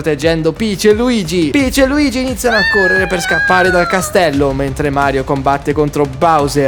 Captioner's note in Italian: urlo